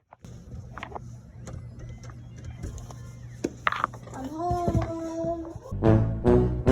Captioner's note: door noises